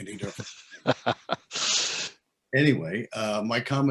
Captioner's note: laughs